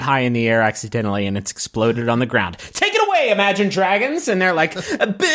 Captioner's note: yelling